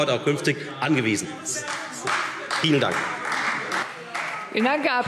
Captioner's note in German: Beifall Freie Demokraten